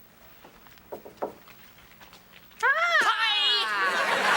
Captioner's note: knock on door